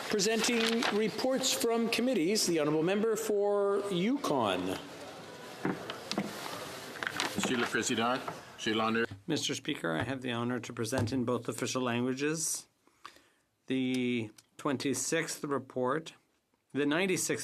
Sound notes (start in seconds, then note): 11.6 speaking French